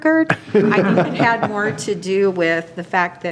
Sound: audience laughing

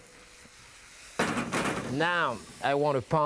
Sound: pan clanking

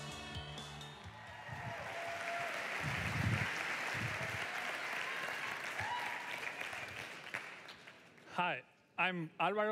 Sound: applause

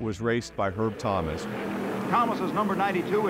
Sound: car engines roaring

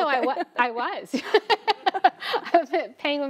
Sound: laughs

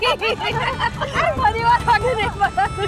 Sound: laughing

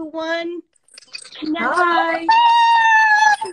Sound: screams

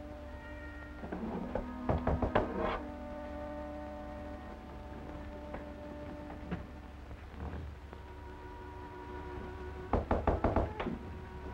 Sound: knocking

